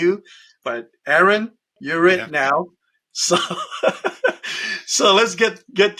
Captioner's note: chuckles